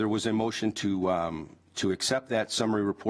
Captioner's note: none